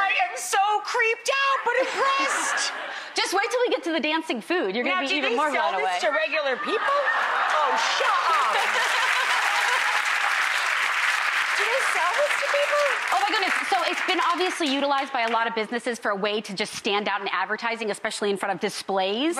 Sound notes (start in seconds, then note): 1.6 crowd laughing; 8.3 crowd cheering